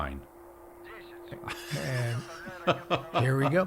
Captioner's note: soldier speaking Russian; laughing